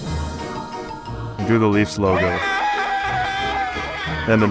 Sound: scream

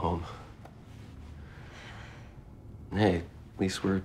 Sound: sighs

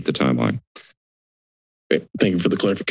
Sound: silence

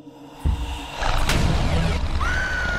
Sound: heavy footsteps from behind; low monstrous growl; SUSAN screams and object smashes

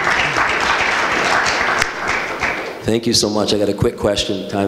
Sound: audience applause

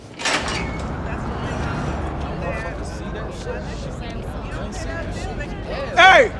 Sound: crowd talking

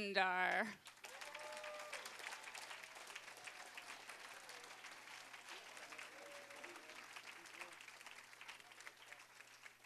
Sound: applause, cheering

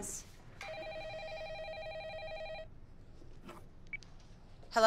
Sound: telephone ringing

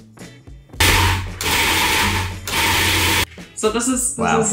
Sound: processor grinding

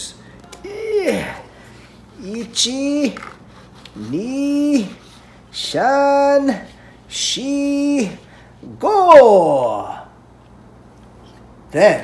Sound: speaking in Japanese

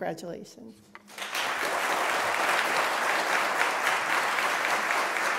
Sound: applause

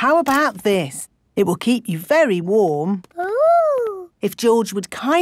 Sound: none

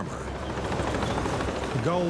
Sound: tank rumbling

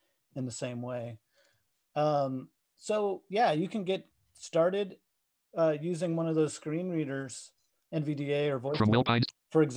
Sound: screen reader reads fast

